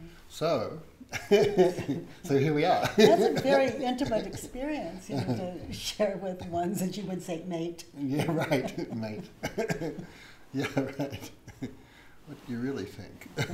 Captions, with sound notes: - So, so here we are. - That's a very intimate experience ya know, to share with one's, as you would say, mate. - Right, mate. (laughs) Yeah right, what do you really think?